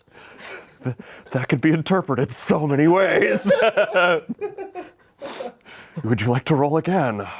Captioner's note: laughs